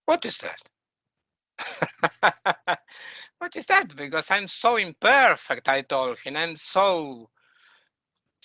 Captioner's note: laughing